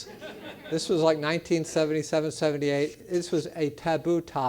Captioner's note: laugh